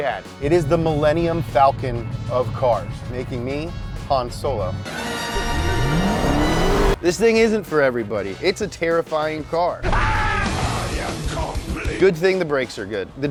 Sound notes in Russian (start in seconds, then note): 4.8 драматическая музыка; 9.8 Крики